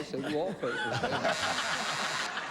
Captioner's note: laughter